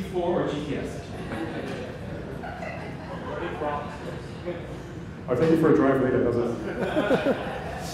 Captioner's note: laughter